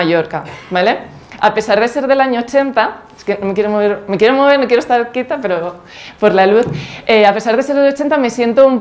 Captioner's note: nervous